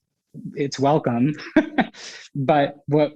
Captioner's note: laughs